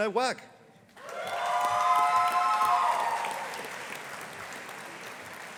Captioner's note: audience applauding